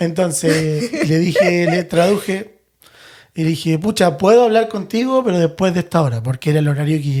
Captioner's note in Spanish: risas